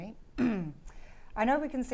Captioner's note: clearing her throat